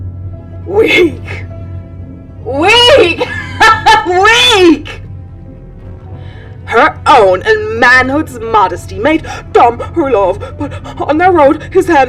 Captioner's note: laughs